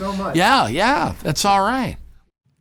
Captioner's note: laughs